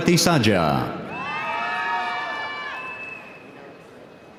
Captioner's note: audience cheering